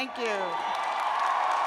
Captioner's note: cheers and applause